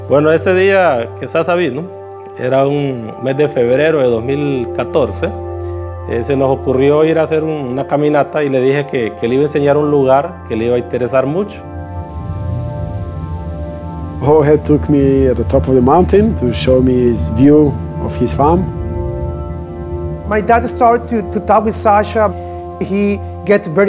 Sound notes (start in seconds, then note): 0.3 speaking Spanish